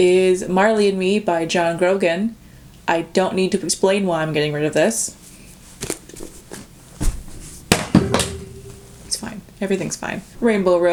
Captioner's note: loud bang